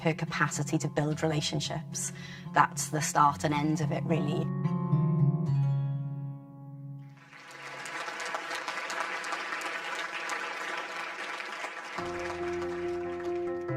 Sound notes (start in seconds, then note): 7.1 audience applause